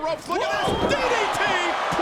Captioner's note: audience cheers